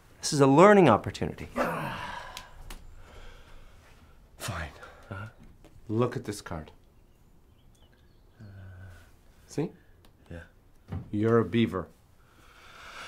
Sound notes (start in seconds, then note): 1.5 sighs